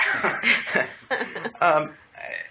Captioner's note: laughter